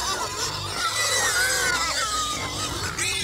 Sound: hogs squealing

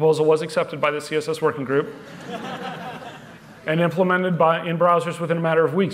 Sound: laughter

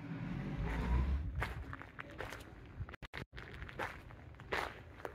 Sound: feet crunching on gravel

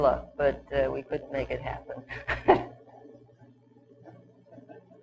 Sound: chuckles

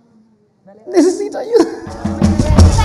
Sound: spanish

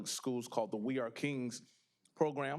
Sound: none

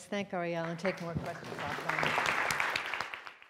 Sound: audience applauds

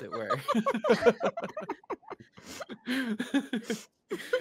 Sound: multiple chuckling

